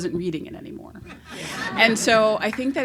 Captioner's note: laughs